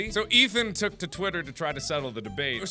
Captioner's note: none